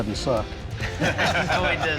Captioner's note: laughter